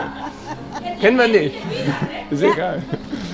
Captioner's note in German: lacht